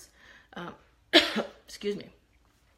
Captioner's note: coughs